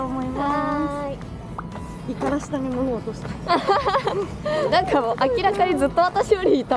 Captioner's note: laughs